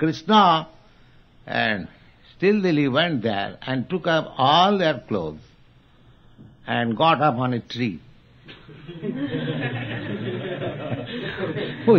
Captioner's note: laughter; laughs